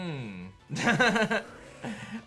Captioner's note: laughs